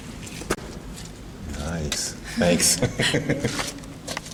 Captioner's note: laughing